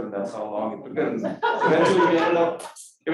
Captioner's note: crowd laughing